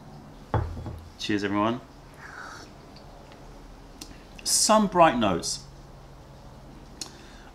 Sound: sips tea

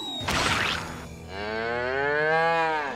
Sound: mooing

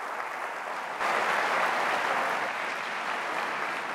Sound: applause

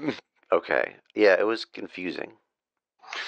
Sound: muffled laughter

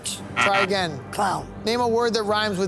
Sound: buzzer sounding

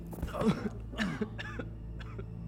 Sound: Dan coughing

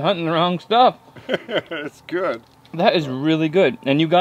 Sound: laughs

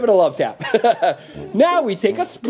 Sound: laughter

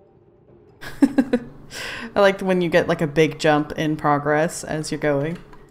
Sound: laughs

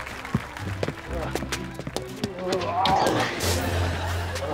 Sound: moaning

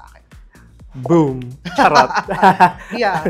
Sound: laughs

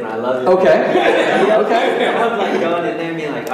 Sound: audience laughing

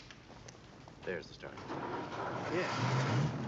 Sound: engine turns; engine revs

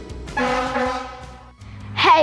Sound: horn honking

